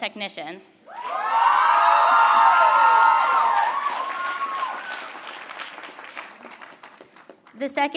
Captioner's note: applause